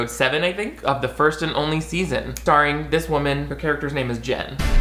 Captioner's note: snaps